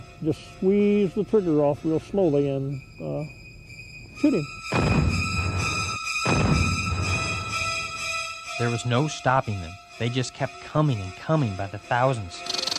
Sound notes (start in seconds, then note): 4.8 rifle booming; 7.3 intense dramatic music